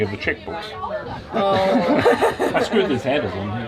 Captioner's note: laughing